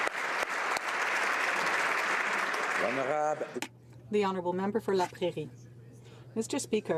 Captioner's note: applause